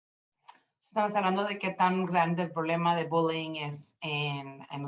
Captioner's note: speaking Spanish